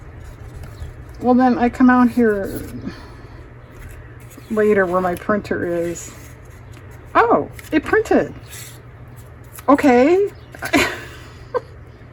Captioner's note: laughs